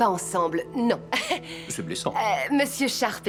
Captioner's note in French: gloussements